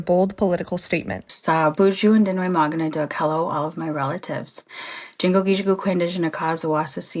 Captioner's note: speaking in a foreign language